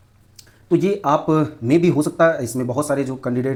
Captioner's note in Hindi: नाक से की जाने वाली आवाज़